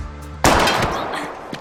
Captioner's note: gunshot